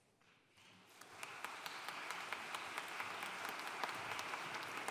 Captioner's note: audience applauding